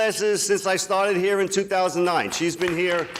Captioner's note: people clapping